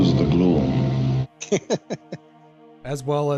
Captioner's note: laughing